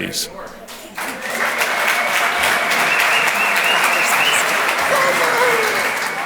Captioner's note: audience cheers and applauds